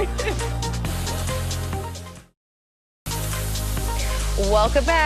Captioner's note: laughing